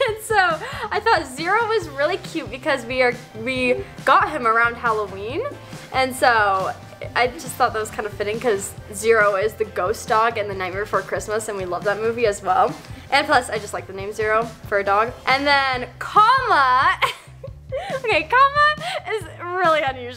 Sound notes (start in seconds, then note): 17.0 chuckles